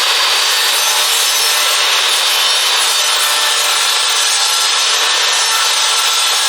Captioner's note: electric saw surges